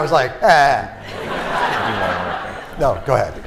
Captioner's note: laughter